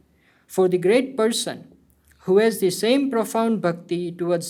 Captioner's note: hindi